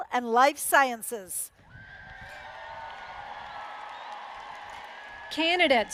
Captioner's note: applause